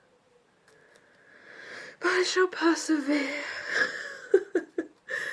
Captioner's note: laughs